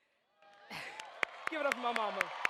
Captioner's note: audience cheers